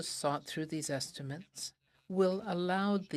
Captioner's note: speaking french